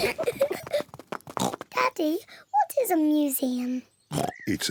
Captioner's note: peppa and george giggling; oinks